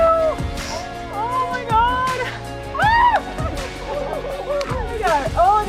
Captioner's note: excited Talking